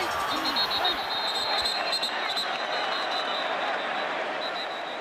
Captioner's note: whistle